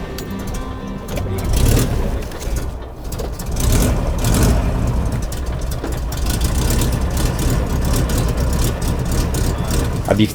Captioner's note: starting car engine